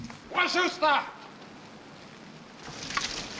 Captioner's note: drumming stops; prophet speaking native language